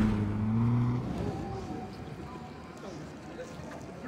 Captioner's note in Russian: шум улицы